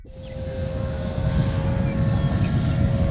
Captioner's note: sound of buzzing engine